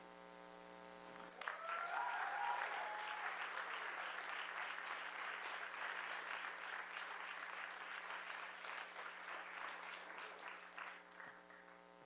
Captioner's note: applause